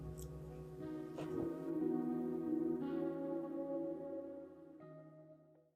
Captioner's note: air whooshing